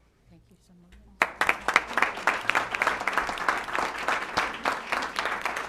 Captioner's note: applause